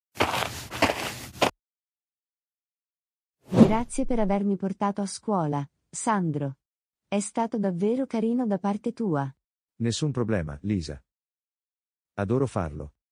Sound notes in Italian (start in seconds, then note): 0.1 FX - Footsteps - On Multiple Dirt - Walk; 3.5 FX - Whoosh - 03